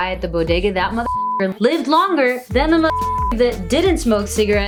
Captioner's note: beep